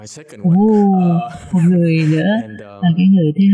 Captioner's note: laughter